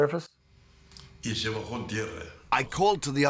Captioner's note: non-english speech